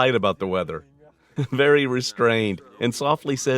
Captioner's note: laughing